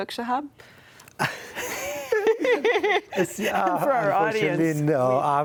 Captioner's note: laugh